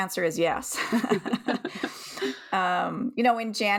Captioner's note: chuckles